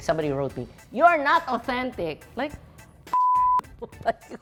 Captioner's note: beep